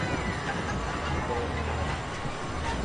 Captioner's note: loud construction sounds